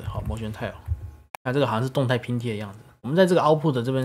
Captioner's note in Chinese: 中文